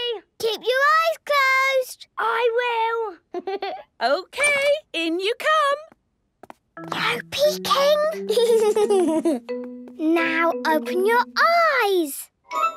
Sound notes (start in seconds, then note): 2.8 Danny laughing; 6.5 whispering; 8.2 Danny giggling